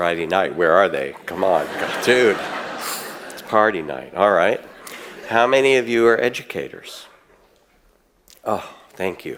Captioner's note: audience laughs